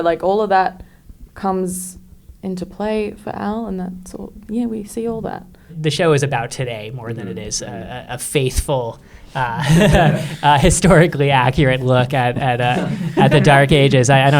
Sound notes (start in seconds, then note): 9.3 chuckles